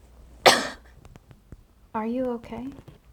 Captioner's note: cough